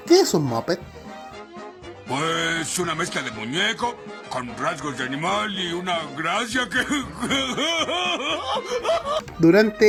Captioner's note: happy Homer noises